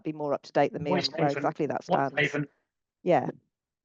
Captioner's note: faintly speaking